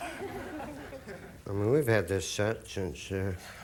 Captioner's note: audience laughing